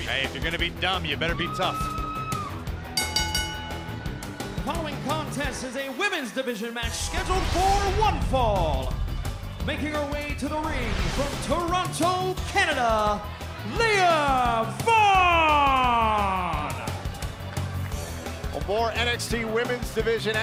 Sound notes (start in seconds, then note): 2.9 bell ringing